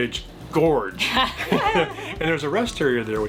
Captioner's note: laughing